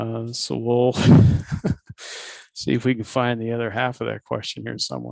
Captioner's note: laughs